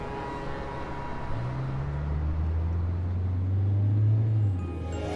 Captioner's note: engine rumbling; bright holiday music